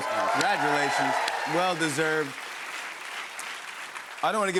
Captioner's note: cheers and applause